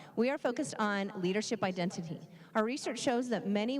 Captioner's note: none